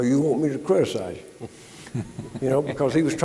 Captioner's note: panelists chuckling